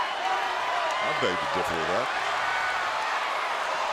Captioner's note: crowd cheering